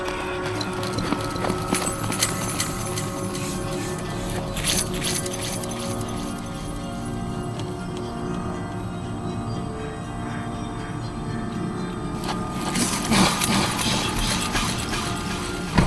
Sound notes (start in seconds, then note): 4.5 keys jingling; 6.4 suspenseful music; 12.7 Patrick panting; 15.6 car door closes